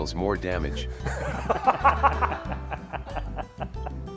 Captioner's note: laughter